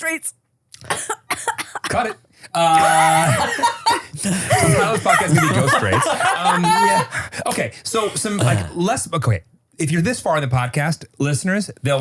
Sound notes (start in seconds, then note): 0.8 coughs; 4.2 everybody laughs